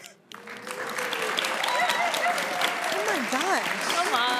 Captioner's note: audience applauding